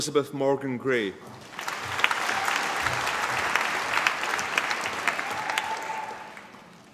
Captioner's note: applause